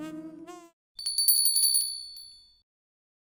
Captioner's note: bell tinkling